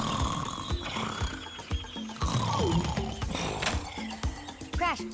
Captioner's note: snoring; birds chirping